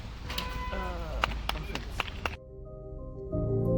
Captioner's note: claps